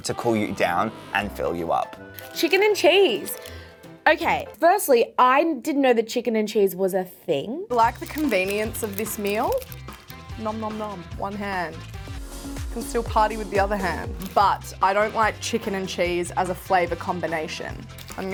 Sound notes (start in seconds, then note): 10.5 mimics munching food